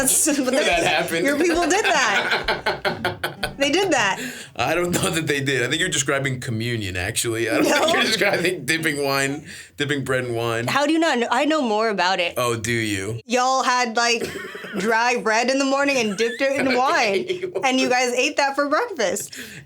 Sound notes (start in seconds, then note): 2.6 Stavros laughs